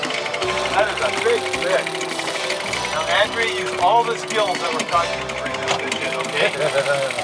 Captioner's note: laughter